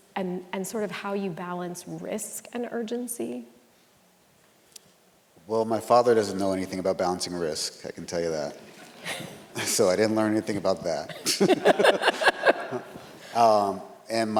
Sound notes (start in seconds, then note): 8.5 audience laughs; 11.0 all laughing